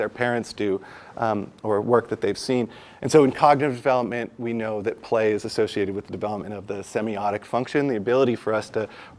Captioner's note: none